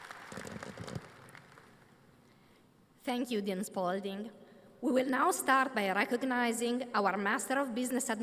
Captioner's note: applause